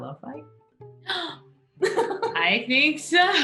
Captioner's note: Sophie gasps